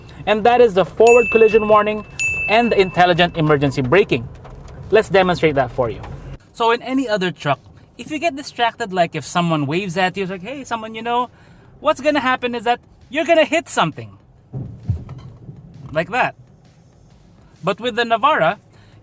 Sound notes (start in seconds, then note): 14.5 thud